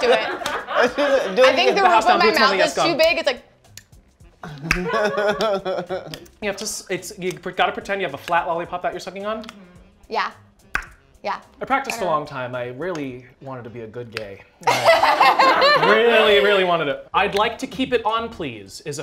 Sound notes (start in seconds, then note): 3.6 tongue clicks; 10.7 tongue clicks; 14.6 laughter